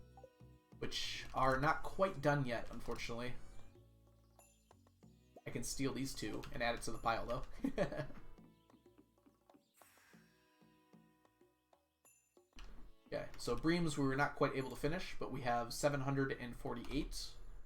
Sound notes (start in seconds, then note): 7.5 laughs